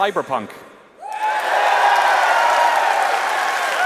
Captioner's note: applause